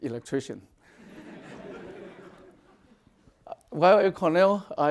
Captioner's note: audience laughing